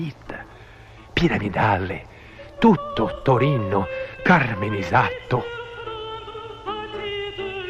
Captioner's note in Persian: به زبان ايتاليايي